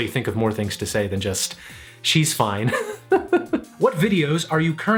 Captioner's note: laughs